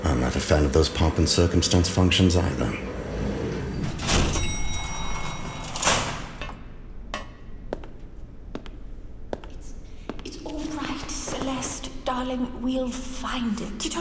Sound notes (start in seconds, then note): 4.3 wind whooshing; 4.3 bell tinkles; 7.0 footsteps approaching